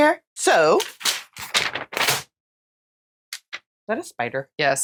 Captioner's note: nosily smacking something with a piece of paper